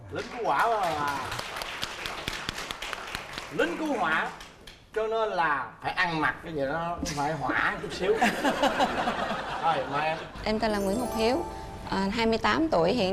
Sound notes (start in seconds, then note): 0.1 applause; 8.2 laughing